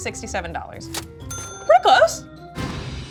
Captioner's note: price dings